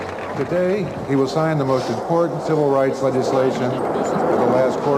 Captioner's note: off screen speaker